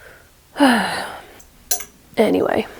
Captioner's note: sigh